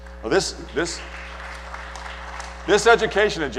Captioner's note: applause